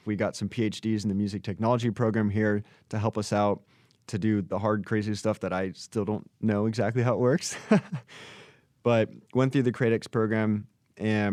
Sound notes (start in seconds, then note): 7.4 chuckles